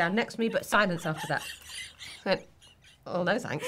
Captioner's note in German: lachen